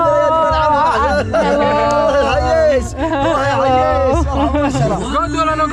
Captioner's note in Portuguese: falatório